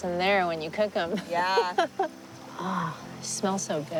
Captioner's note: giggles